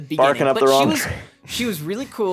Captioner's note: laughs